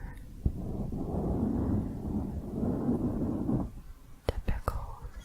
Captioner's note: dense mic scratching